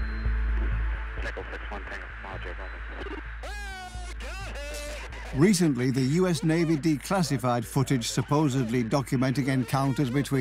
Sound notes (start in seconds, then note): 0.9 man on recording